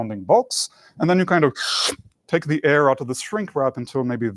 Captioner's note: suction sound